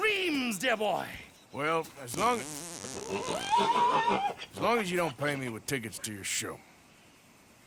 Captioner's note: he is interrupted by the donkey farting